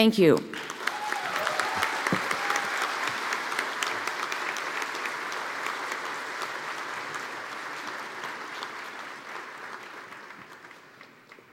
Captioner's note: applause